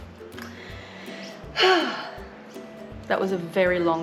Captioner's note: massive sigh